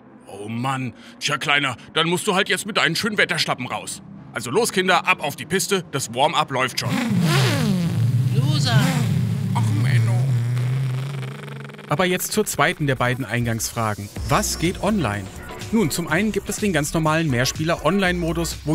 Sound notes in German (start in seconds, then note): 6.8 Motorenbrummen; 9.4 traurig